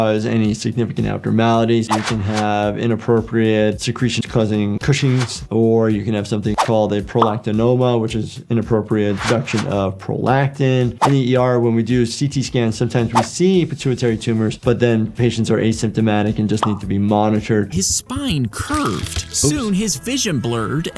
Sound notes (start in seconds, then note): 18.5 bone crunching